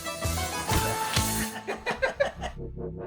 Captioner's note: both laugh